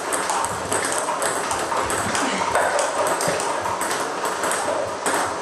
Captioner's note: ball ping pong hitting continues